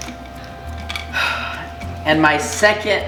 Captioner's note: sigh